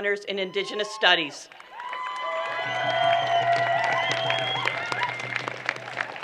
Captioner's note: applause